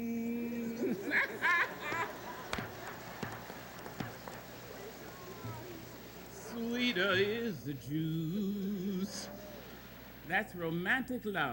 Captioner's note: laughing